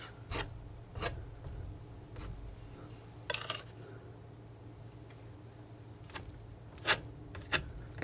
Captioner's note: scratching